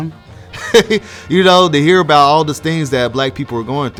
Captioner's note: chuckles